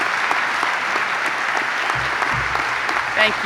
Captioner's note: clapping